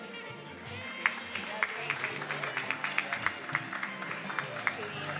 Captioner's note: attendees applauding